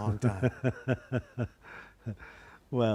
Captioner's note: laughter